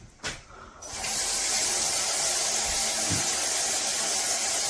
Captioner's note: water splashing